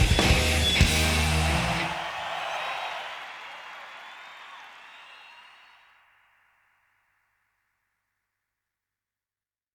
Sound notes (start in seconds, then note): 1.6 crowd cheering